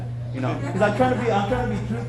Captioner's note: audience laughing